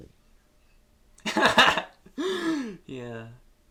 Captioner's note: laughs